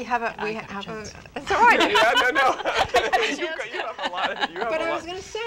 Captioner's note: laugh